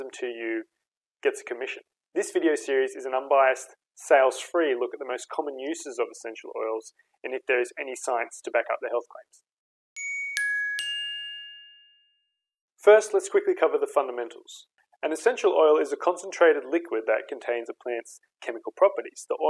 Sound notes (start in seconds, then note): 10.0 bell rings